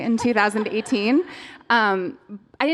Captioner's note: laughter